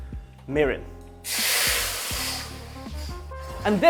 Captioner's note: sizzling sound